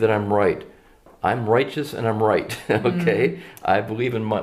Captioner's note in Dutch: lachen